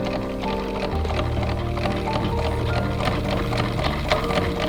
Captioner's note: wheel clattering